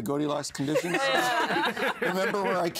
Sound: all laughing

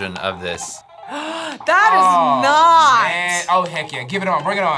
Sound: gasps

